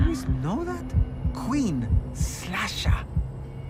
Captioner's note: heartbeat thumping